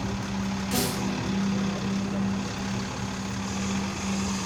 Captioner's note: bus engine whirs